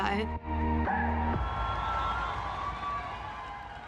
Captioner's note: cheering